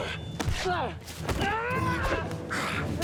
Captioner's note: Thor grunts; boot thuds; Kjartan grunts; swords clang